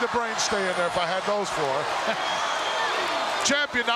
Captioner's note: chuckles